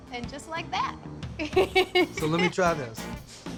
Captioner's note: giggling